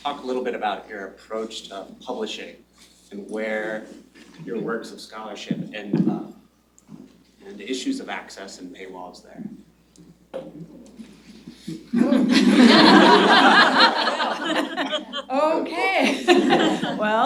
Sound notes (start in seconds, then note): 11.9 laughter